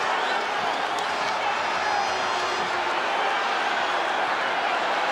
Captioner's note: audience shouting